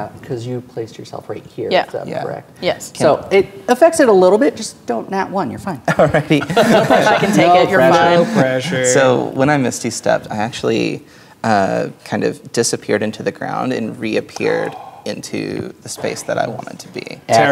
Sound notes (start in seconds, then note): 5.9 players laughing; 6.0 laughing